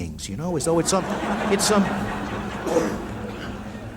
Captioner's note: laughter